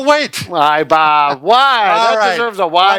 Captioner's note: laughing